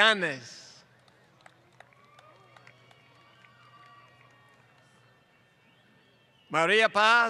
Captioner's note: applause